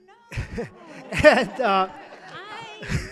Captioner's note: audience laughing